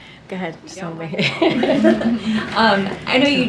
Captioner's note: laughter